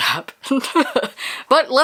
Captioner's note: laughs